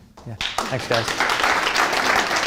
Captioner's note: audience applauding